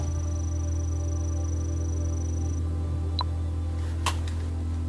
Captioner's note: trilling and beep